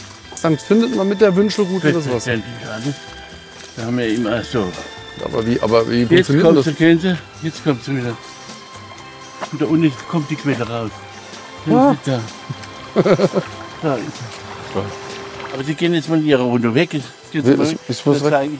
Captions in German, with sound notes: Findet man damit was? Da haben wir immer ... Aber wie ... Aber wie ... Ha. (Zufriedenes Lachen) (Wasserplätschern) Sie gehen jetzt mal hier runter weg, ich zeige Ihnen ...